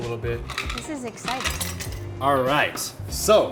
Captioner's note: ice rattles